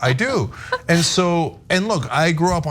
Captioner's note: laugh